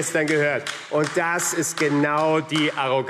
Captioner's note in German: Beifall AfD